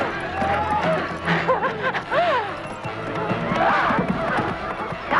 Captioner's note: Hundra laughs